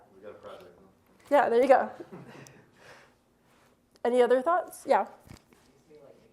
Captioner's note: laughter